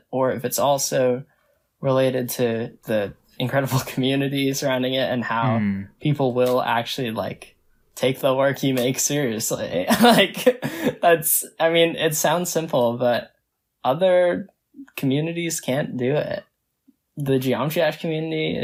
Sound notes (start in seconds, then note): 10.8 laughs